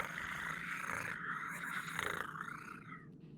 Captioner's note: animal purring